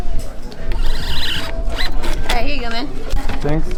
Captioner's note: none